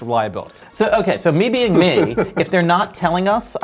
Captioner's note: laughs